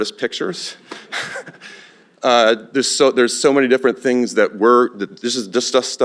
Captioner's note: laughs